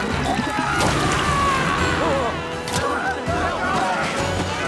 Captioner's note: soldier sputtering; soldiers screaming